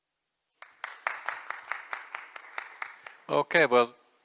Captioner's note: applause